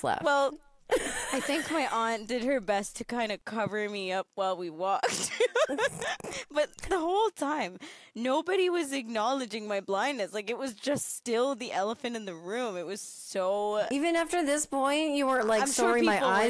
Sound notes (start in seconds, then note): 5.1 laughs